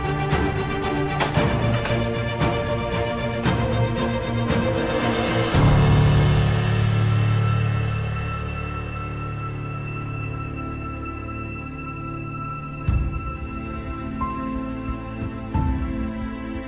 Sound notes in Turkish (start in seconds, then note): 0.9 Kapı açılma sesi; 5.8 Müzik devam ediyor